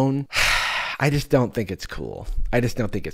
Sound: sighs

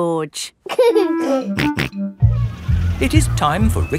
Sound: giggling and snorting

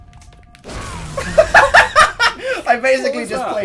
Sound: laughs

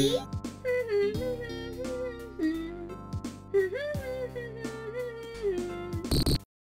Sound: Buzz humming Green Hill Zone theme

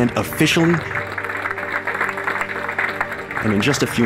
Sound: clapping

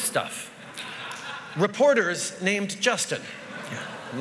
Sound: laughter

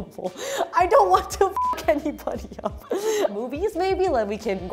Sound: beep

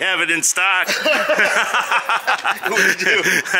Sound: both laughing

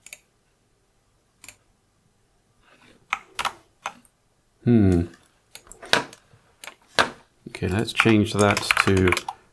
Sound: blank Audio

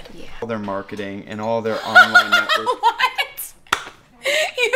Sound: laughter

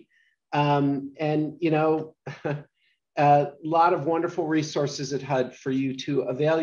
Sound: laughs

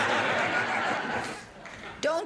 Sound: laughter

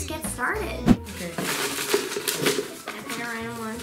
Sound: paper rustling

